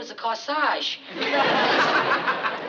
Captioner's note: laughter